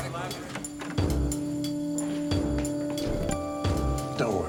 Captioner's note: door opens